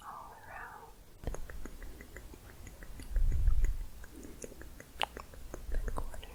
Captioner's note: quick tongue clicking